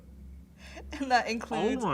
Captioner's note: chuckles